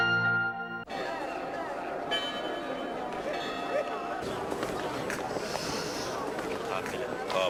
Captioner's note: optimistic music; crowd noise; sigh